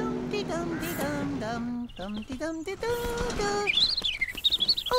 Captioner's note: humming; warbler Singing